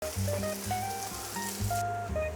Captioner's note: sizzling sound